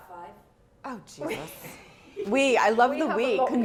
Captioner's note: chuckles